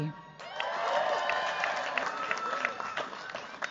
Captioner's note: cheers, applause